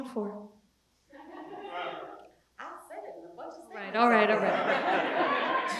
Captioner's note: laugh